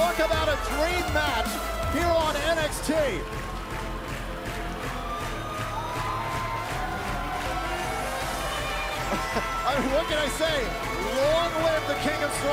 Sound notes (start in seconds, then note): 3.3 crowd cheering